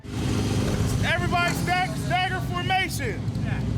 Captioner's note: engine revving